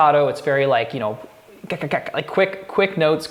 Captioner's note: mouth beats